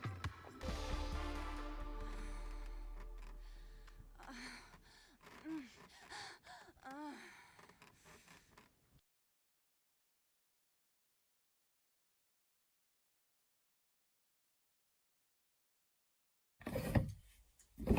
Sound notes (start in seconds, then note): 3.8 sex noises heard from room